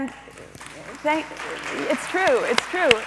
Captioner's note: audience applauds